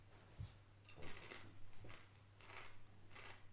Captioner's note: crunch crunch